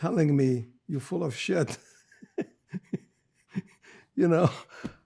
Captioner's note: laughing